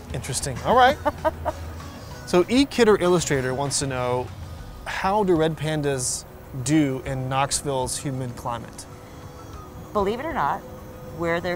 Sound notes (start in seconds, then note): 0.8 laughs